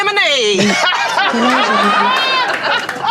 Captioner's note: laughing